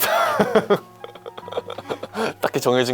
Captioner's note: laughter